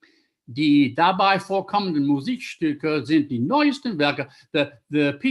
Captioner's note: speaking German